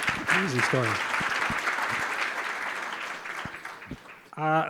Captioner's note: applause